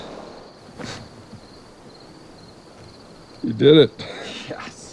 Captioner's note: crickets chirping; laughs